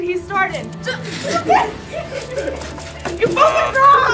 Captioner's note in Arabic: يضحك الجميع